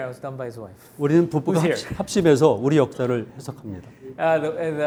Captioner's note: speaking in Korean